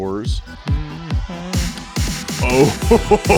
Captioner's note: hums; excitedly exclaims